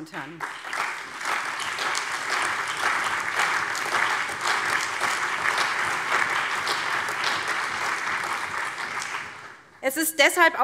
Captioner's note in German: Allgemeiner Beifall